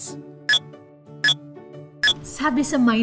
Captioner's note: mind--blower beeps